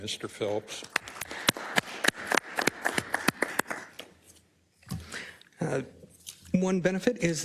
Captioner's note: applause